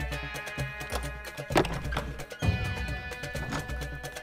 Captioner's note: Door opens